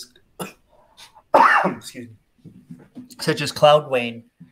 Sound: coughs

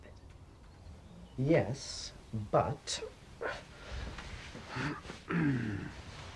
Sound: little "girl" clears throat

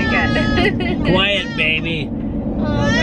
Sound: giggling

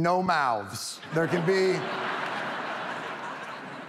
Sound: audience laughing

